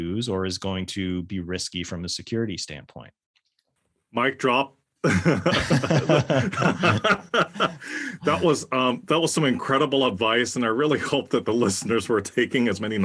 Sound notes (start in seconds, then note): 5.0 laugh